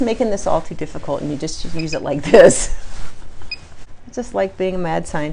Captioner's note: laughs